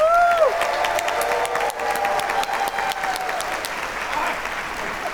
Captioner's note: audience cheer applaud